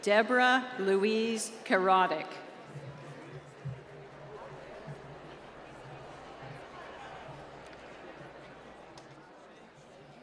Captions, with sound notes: Deborah Louise Kerotic. (applause)